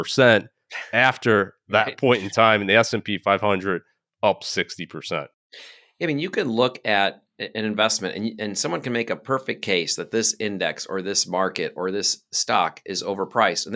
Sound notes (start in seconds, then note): 0.0 laughing; 1.8 laughing